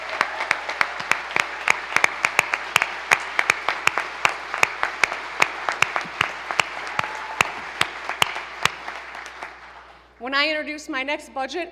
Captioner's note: applause